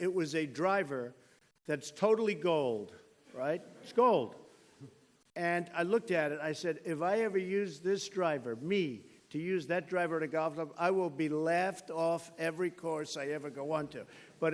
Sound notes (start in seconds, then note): 4.8 laughter